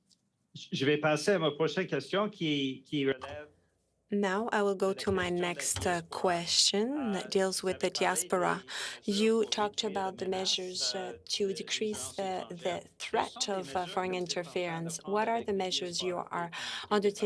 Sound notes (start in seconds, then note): 5.9 speaking French